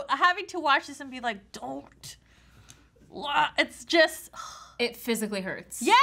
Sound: sighs

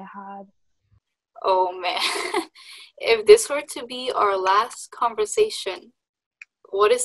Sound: laughs

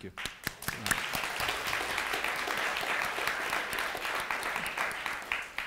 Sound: audience applauding

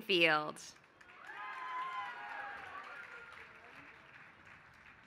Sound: applause

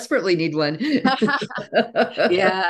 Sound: laughter

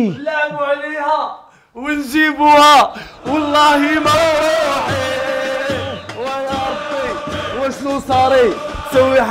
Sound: chanting

